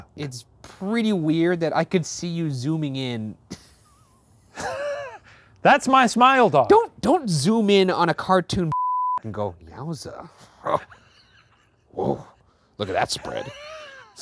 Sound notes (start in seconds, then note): 3.5 laughing; 8.7 beeping; 10.5 laughing